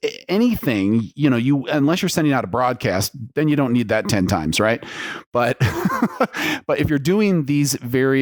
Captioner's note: laughs